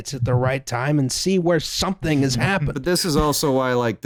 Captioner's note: chuckles